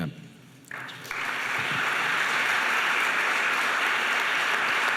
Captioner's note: audience applauds